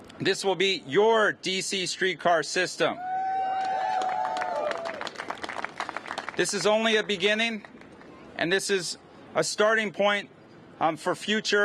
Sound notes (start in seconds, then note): 3.0 cheers and applause